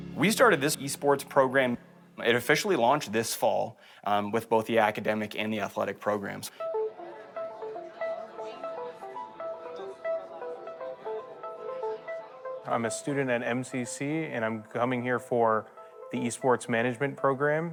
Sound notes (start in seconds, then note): 6.7 soft music; 6.8 people chattering